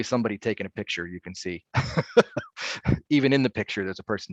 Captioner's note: laughing